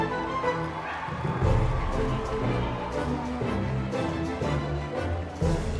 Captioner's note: whimsical music continues; crowd cheering and clapping